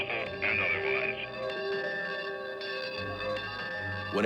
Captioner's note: bell clanging